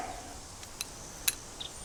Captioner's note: horse snorts